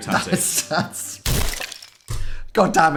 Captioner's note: laughing